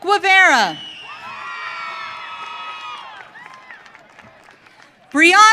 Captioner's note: audience cheering